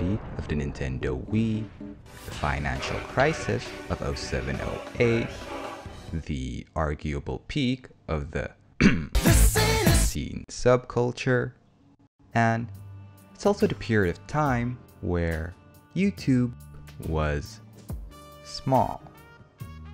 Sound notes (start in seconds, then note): 8.8 cough